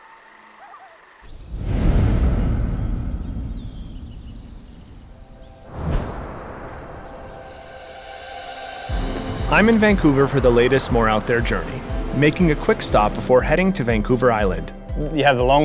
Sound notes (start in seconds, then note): 0.1 water flowing; 3.6 whooshing; 5.2 birds calling; 5.2 bugs chirping; 9.1 adventurous instrumental music